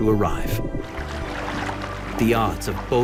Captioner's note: water trickling